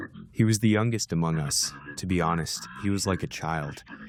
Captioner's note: through translator